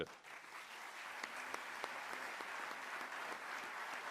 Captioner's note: applause